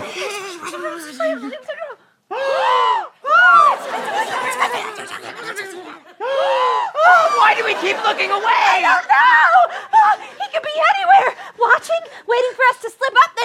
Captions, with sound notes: [WHISPERING] [GASPS] [WHISPERING] >>WHY DO WE KEEP LOOKING AWAY? >>I DON'T KNOW! HE COULD BE ANYWHERE! WATCHING! WAITING FOR US TO SLIP UP,